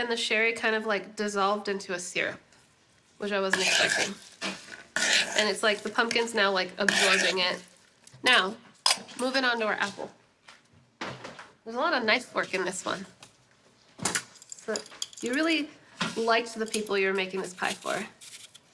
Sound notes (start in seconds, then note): none